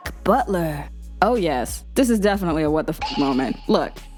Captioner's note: popping